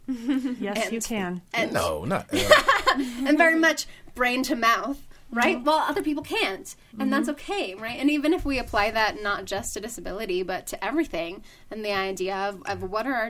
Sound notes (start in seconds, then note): 2.0 laughing